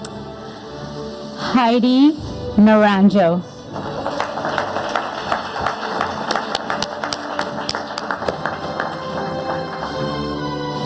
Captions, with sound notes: Heidi Nuranjo. (audience applauding) (upbeat music)